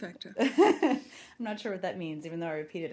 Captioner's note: laughter